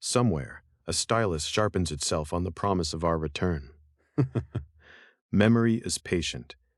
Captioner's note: laugh softly